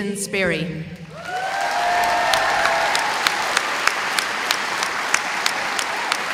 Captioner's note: audience applauding